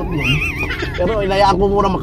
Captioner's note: laughs